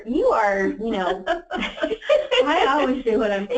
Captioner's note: laughs